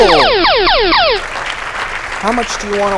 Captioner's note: applause